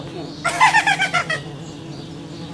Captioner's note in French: Rires en chœur